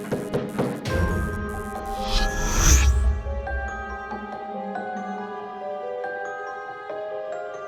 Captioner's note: light buzzing; menacing whimsical music; object zapping